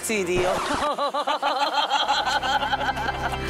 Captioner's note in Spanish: Risas